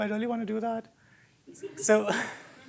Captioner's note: laughter